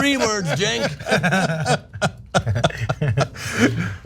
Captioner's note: laugh